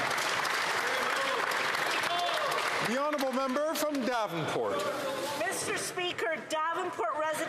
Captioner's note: some Applause